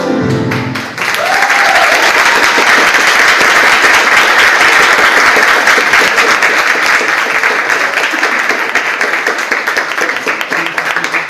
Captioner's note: audience applauds